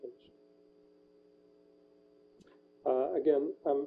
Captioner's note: pause